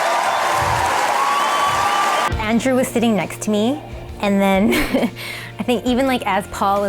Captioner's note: applause & cheering